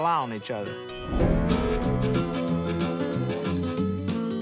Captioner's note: twinkling